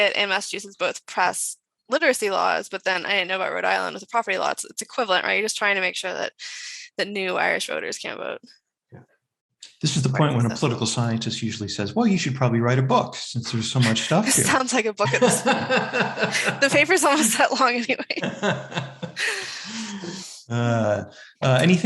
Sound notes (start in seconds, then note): 15.0 chuckles; 15.0 laughs